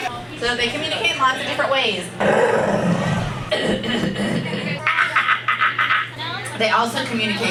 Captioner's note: grunts